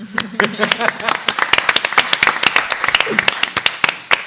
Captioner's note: applause